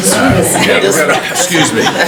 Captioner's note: directors chuckle